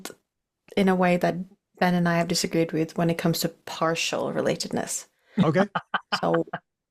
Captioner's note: laughs